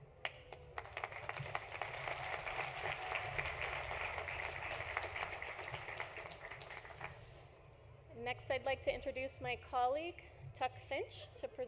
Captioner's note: applause